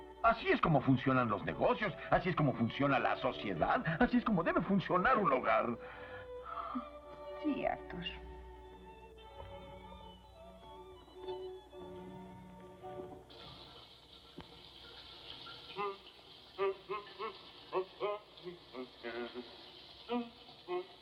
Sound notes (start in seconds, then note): 13.2 shower Running; 16.5 Arthur Humming